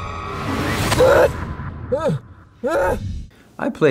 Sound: gasping

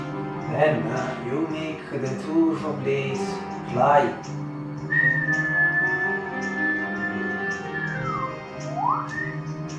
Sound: whistle

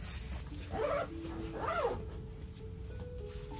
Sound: "getting ready" sound by my zipper

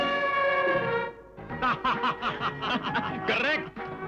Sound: laughs

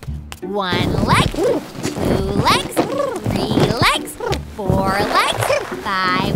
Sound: costume rustles

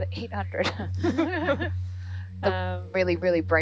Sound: scientists laughing

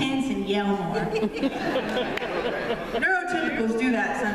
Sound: laughter

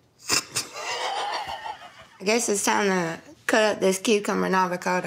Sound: laughs

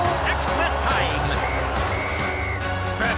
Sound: whistle blows

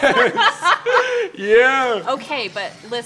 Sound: laughter

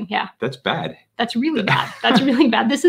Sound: laughing

